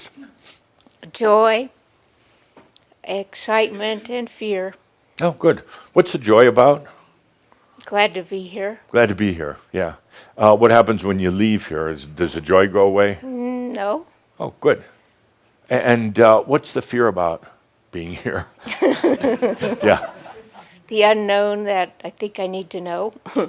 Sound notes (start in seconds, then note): 18.6 they chuckle